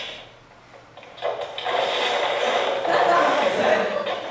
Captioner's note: sound of items falling; audience laughs